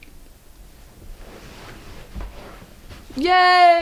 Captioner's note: rustling